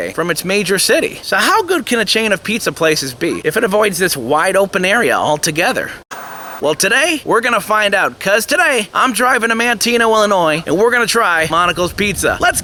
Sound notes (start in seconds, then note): 6.1 TV Static